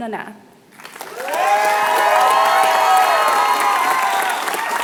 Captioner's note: applause